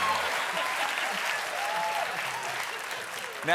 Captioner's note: cheers and applause; laughter